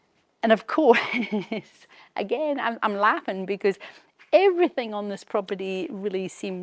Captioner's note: chuckles